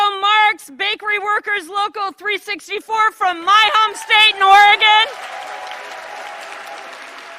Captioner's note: applause